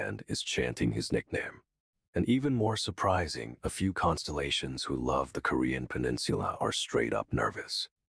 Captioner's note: nervous